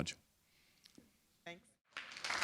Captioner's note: applause